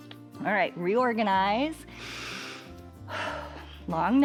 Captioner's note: inhales and exhales